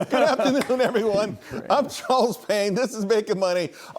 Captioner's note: laughter